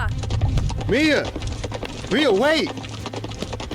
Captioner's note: horse fast gallup